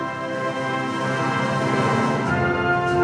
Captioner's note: none